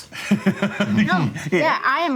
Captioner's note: laughing